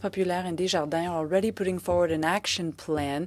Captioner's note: speaking French